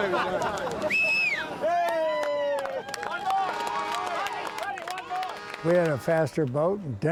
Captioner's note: crowd cheering; crowd whistles; crowd applauding